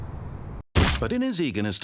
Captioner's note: splat